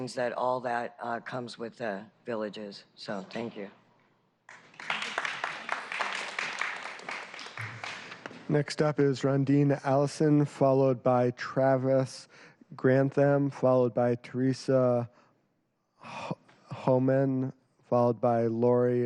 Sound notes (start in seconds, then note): 9.4 applause